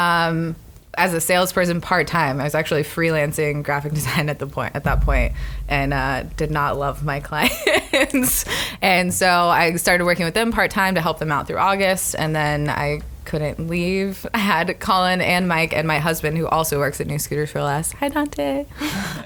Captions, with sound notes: as a salesperson part-time. I was actually freelancing graphic design at that point and did not love my clients. (laughs) So, I started working with them part-time to help them out through August and then I couldn't leave. I had Collin and Mike and my husband who also works at New Scooters 4 Less - Hi, Dante! -